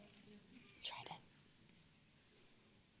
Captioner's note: whispers